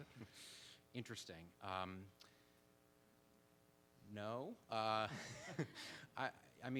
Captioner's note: laughs